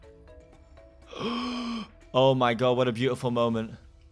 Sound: gasps

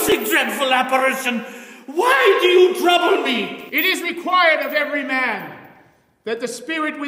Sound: marley screams

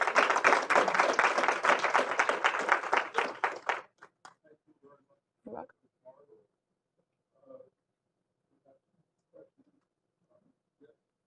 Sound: applause

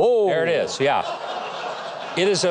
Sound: audience laughing

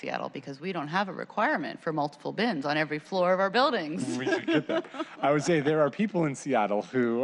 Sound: laughter

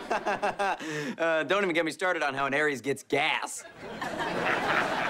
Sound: laughing

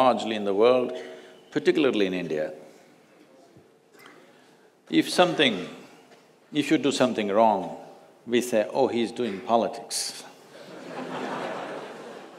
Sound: laughter

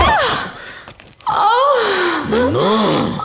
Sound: groans

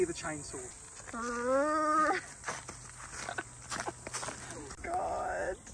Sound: muttering

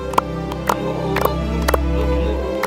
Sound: faster clapping

